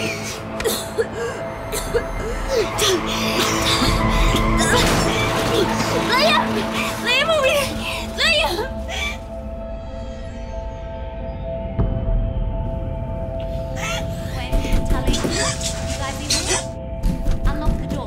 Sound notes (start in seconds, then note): 0.1 coughing; 13.2 knocking from outside